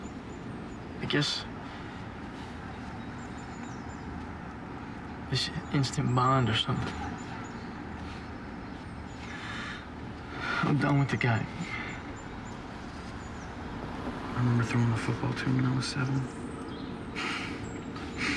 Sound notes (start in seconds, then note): 10.1 breathing raggedly; 16.7 chuckles